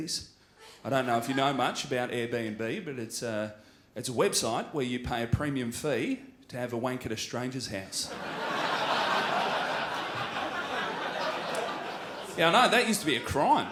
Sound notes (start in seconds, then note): 8.0 crowd laughs